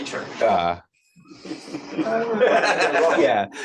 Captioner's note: laughter